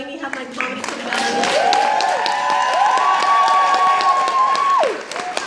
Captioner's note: audience cheers